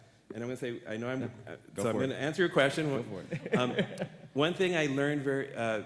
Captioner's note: audience laughs